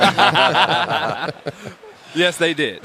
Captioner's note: laughter